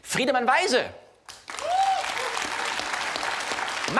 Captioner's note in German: Applaus und Jubel aus dem Publikum